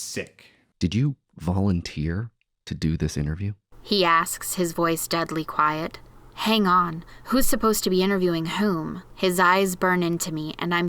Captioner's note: reading aloud from the novel